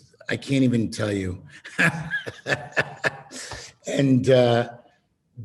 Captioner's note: laughing